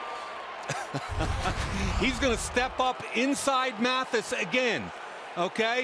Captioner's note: laughs